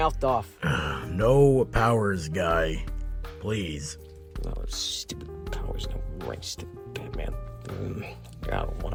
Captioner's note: grumble